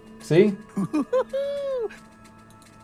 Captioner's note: tigger laugh